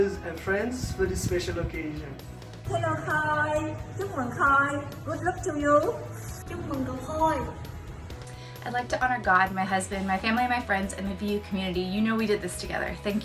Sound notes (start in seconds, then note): 3.5 speaks foreign language; 6.5 boy speaks foreign language